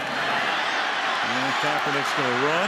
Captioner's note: cheering